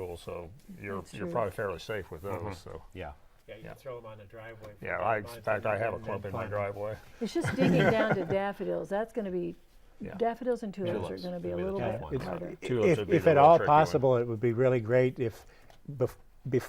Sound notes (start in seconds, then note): 7.3 laughing